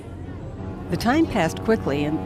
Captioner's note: boat horn blares